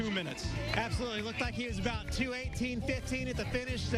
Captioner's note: applause and cheering